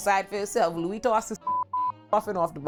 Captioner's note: beep